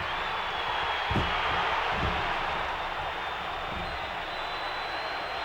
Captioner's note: audience cheering